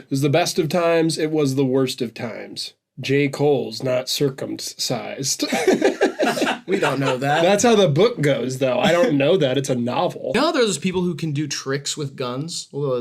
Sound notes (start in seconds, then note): 5.4 laughter